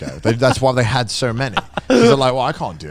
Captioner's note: laughs